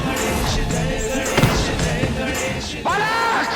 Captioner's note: falls